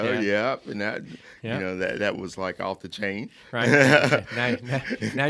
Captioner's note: laughing